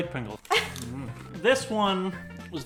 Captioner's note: laughs